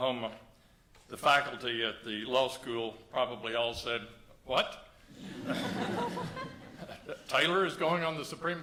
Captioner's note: laughter